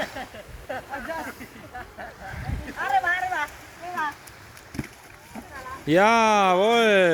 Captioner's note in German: gelächter